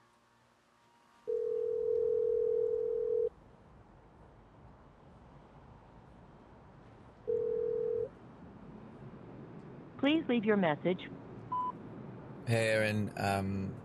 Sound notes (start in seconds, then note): 1.2 phone ringing; 7.3 phone ringing; 9.9 answering maching